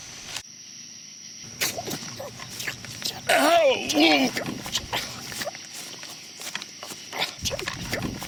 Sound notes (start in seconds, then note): 1.8 knife whooshing; 4.4 groaning and gurgling